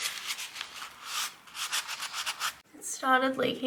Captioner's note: wiping noises